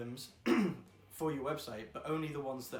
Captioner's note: clears throat